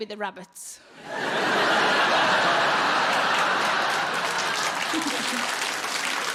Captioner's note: audience laughing and applauding